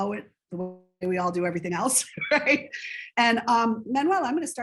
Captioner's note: chuckles